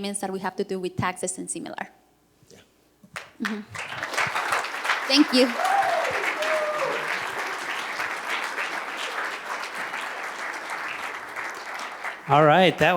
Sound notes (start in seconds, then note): 6.8 cheers and applause